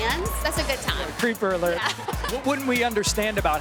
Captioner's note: laughs